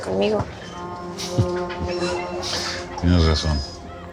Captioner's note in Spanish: Risa contenida